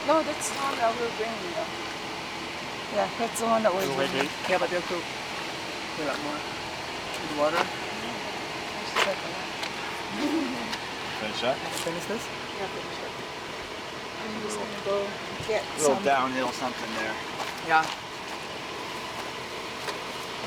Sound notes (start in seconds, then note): 2.8 team chattering